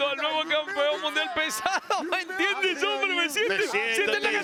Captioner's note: laugh